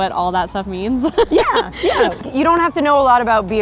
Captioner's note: laughing